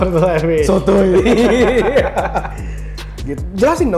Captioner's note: laugh